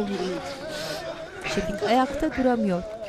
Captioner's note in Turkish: Nefes sesi